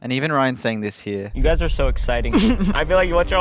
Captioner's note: chuckling